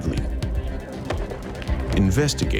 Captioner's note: thumping